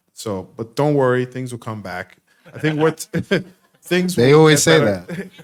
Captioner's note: chuckles